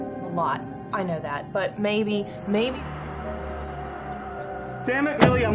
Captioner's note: speaks faintly